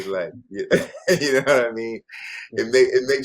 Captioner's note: laughs